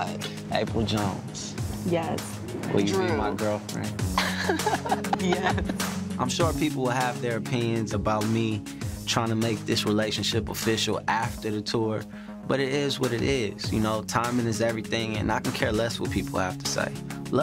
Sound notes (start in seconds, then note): 4.1 laughs